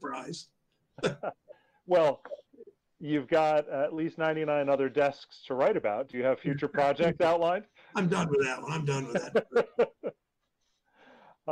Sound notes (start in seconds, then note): 1.0 laughter; 9.6 laughs